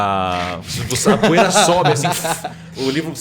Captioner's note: voosh